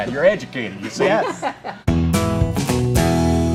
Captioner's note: laughing